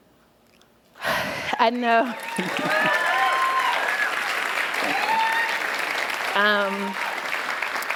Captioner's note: applause of Encouragement